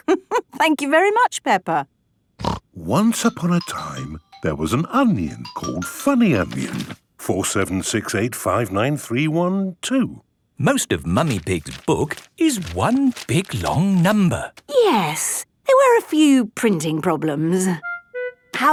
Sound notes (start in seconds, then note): 0.1 laughing; 2.4 snorting